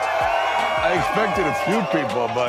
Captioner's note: crowd applauding and cheering